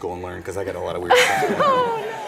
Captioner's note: laughs